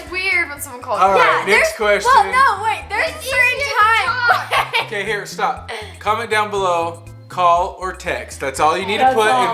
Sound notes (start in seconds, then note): 4.4 laughs